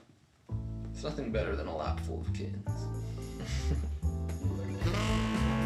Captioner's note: laughs; funky music